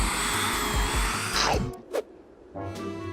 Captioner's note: chomp